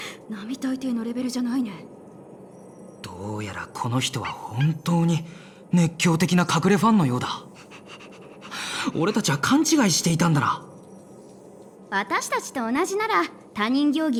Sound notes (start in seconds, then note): 8.5 sigh